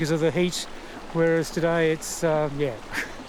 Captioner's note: chuckles